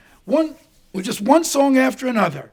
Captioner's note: hand swishing